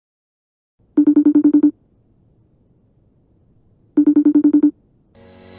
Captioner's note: facetime ringtone